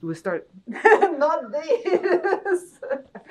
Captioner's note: laughing